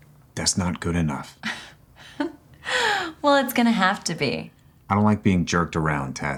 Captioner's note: laughs